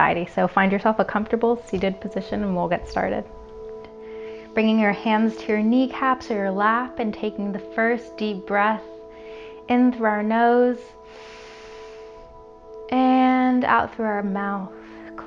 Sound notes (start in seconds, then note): 11.0 inhales